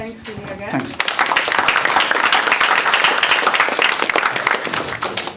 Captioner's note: applause